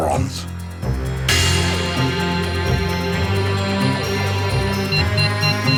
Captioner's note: dramatic music; laboratory machinery beeps